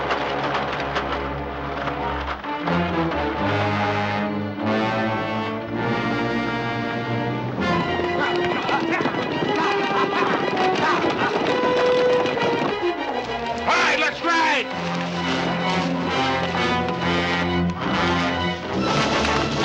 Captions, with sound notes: [MEN YELLING] Ride! Let's ride!